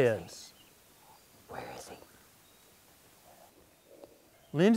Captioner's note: whispering